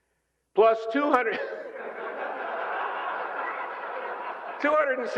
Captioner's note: laughter